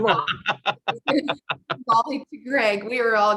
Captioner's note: laughs